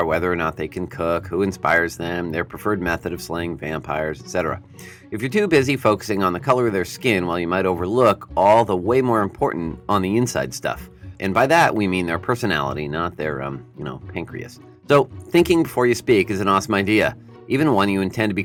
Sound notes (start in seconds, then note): 9.8 Martin Luther King Jr giving a speech